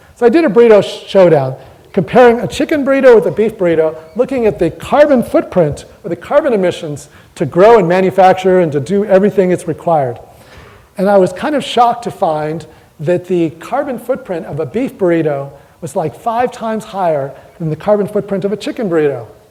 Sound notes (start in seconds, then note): none